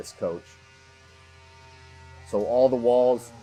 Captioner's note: machine revving